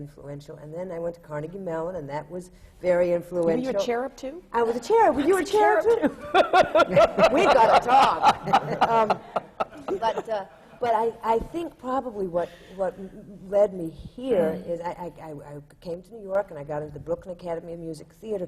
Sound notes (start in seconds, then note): 9.9 laughs